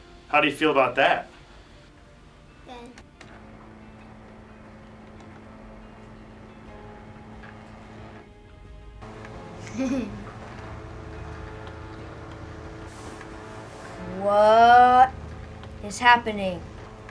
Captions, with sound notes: How do you feel about that? - Good. (fax machine whirring) - (chuckles) - Whaaat is happening?